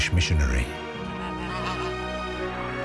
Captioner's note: honking